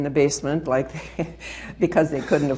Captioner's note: laughing